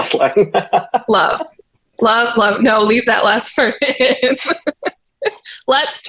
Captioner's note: laughs; laughs